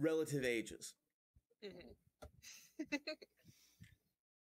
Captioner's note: chuckles